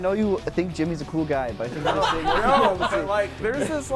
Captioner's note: laughter